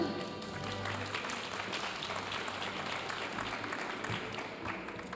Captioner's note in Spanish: aplausos de la audiencia